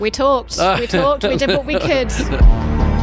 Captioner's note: James laughing; suspenseful music